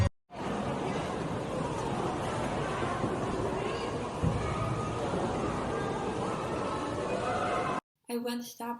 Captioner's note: people talking in background